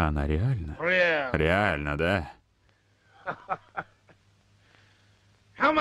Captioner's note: laughs